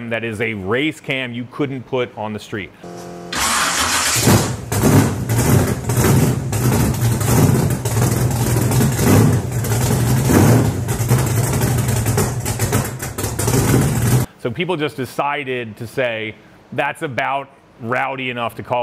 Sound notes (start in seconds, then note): 3.4 engine rumbling; 10.2 engine sputtering